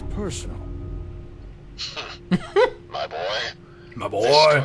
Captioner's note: laughing